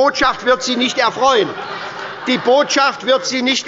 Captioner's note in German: Heiterkeit bei der SPD